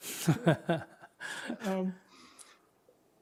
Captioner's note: laughter